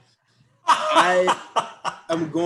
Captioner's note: laughing